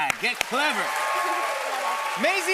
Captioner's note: cheers and applause